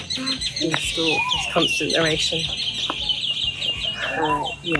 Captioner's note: birds chirp